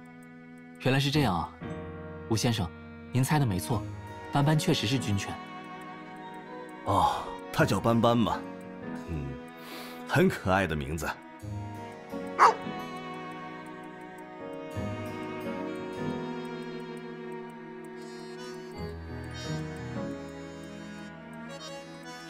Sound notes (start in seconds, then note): 12.4 bark